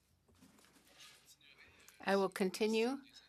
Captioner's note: speaking French